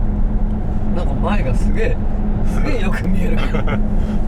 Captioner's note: laughs